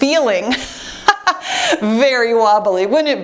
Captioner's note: laughs